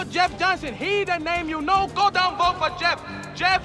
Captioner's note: chinese Accent